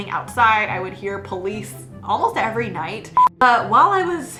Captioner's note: beep